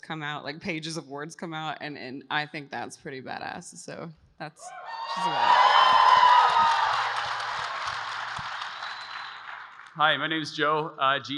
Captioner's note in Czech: Potlesk